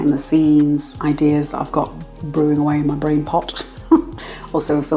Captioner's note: laugh